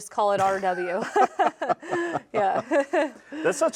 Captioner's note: both laughing